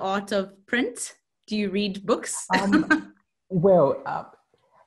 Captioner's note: laughs